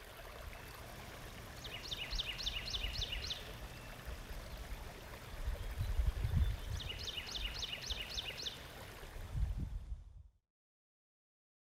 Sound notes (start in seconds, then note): 0.0 water splashing; 1.5 birds chipping; 5.0 water splashing; 7.1 birds chipping; 9.7 water splashing